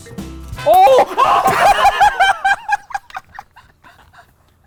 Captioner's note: all laughing